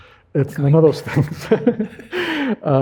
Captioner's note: laughs